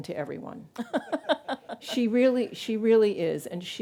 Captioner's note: laughs